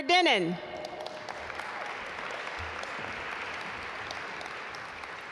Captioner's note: audience applaud